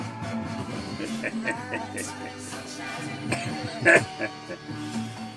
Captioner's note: laughing